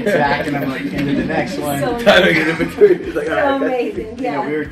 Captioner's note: interviewers laugh